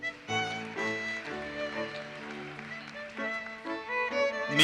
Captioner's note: audience applauses